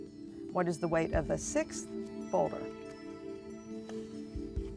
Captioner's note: none